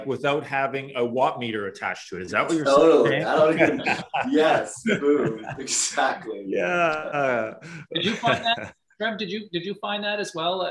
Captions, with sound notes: without having a watt meter attached to it. Is that what you are saying? - Totally, I don't need it. (laughter) - Yes, exactly. - Yeah. (laughs) - Trev, did you find that as well